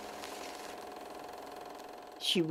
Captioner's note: film rolling